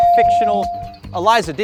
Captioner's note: bell dings